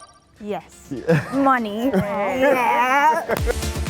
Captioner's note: buzzer sounding; laughing; energetic techno music